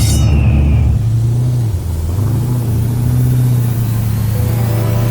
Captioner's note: car engine revving